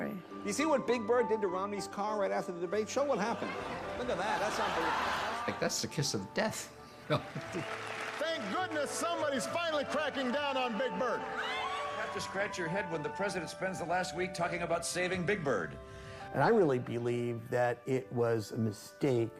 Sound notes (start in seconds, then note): 3.3 audience laughing; 7.0 chuckling